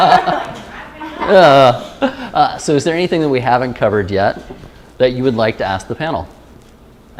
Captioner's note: laughter